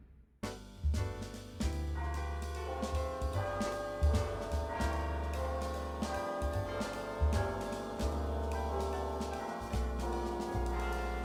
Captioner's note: clock chimes; relaxed music